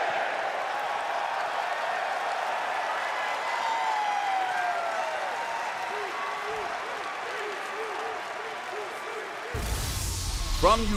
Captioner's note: crowd cheering